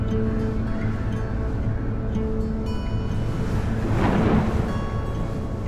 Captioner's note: background music; wind howling, thunder